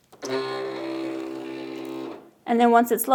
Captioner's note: machine whirs